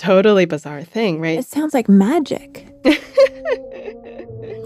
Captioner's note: laughs